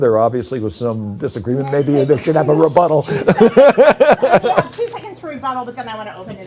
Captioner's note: laughter